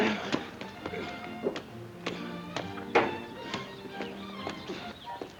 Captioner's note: gentle music; footsteps plodding; birds chirping; gentle music